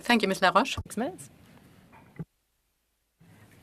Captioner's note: speaking French